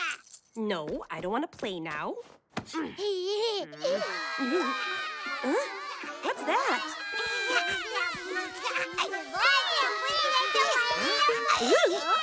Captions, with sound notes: No, I don't want to play now. [giggling] Huh? What's that? [crying] [giggling] [babbling]